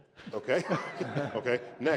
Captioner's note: laughter